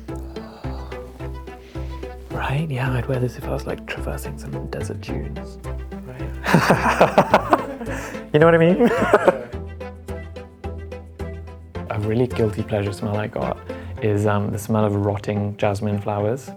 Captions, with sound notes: Right? Yeah, I'd wear this if I was traversing some desert dunes. Right? [Laughter] You know what I mean? A really guilty pleasure smell I've got, is the smell of rotting jasmine flowers.